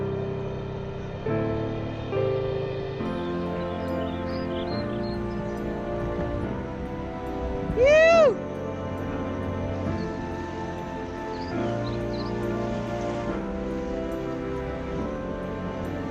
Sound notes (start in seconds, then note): 4.1 birds chirping; 7.7 excited yell; 10.6 calm music